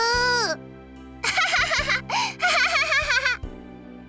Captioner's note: laugh